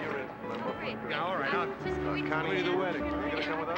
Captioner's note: everyone talking